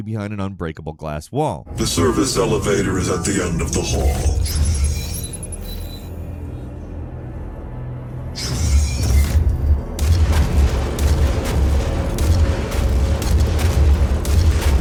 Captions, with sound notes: behind an unbreakable glass wall. - The service elevator is at the end of the hall. (chilling music) (gun firing)